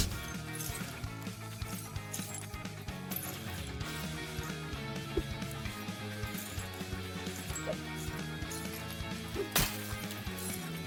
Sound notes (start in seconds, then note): 9.0 bone crunch